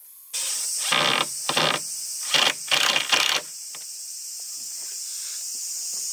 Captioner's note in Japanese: ビス留めの音